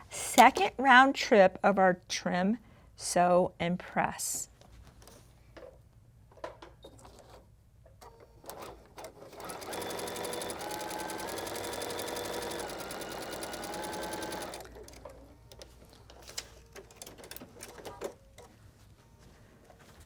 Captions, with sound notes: second round trip of our trim, sew, and press. (Sewing Machine Whirring)